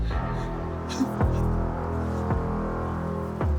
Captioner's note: crying